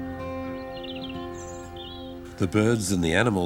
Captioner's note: birds chirp